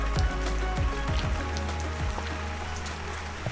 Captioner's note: rain dripping